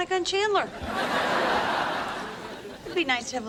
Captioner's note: laugh track laughs